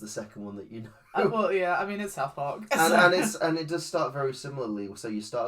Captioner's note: laughs